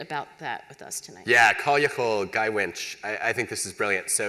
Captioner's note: non-english